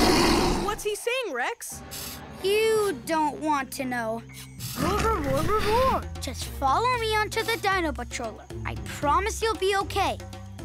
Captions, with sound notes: What's he saying, Rex? You don't want to know. [speaking dinosaur] Just follow me on to the dino patroller, I promise you'll be okay.